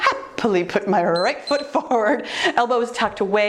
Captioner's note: timer beeps